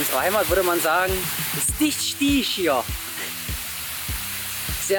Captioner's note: saxony dialect